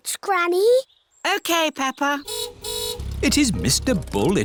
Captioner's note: car horn honks